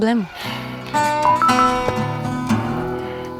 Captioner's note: notification